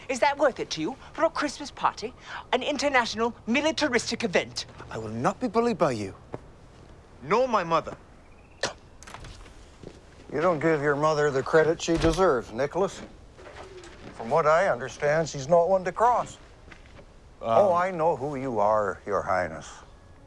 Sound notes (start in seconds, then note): 8.6 Arthur scoffs; 8.6 door squeaks